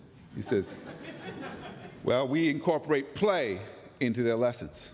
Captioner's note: laughter